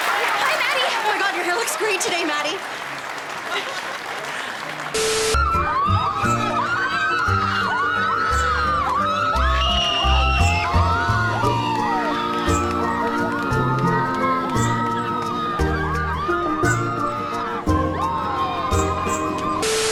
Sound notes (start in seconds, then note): 3.7 more Applause; 4.9 unnecessary Screaming